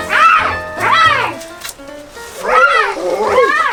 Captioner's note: roars